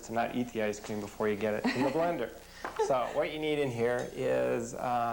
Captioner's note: laughing